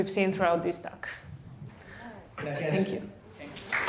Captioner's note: applause